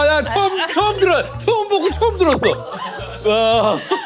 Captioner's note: shock and horror